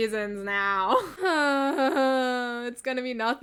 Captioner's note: dramatic sigh